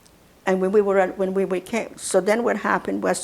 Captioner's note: mumbling